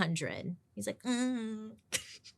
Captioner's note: humming braggingly